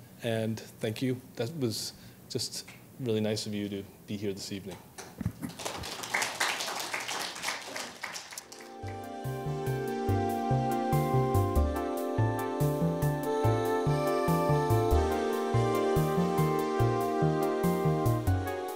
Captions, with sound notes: And thank you, that was just really nice of you to be here this evening. (applauding) (uplifting inspiring music)